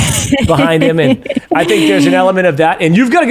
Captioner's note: laughs